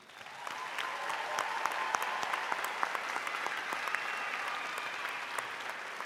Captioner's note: audience applauding